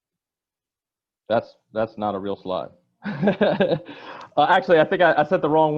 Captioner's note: laughing